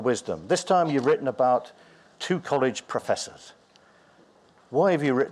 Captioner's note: none